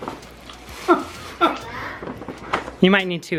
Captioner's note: laughing